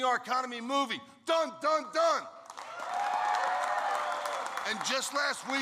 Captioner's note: applause